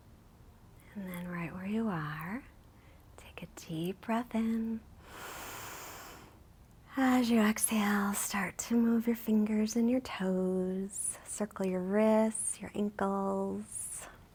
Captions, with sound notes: And then right where you are, take a deep breath in. (inhales) As you exhale, start to move your fingers and your toes. Circle your wrists, your ankles.